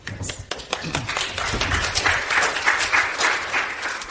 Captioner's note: audience applauds